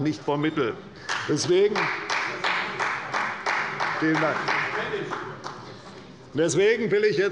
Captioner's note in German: Beifall bei der CDU